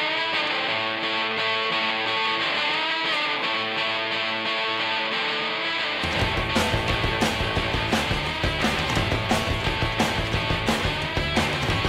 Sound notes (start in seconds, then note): 10.2 knock on the door